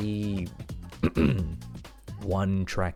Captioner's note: ahem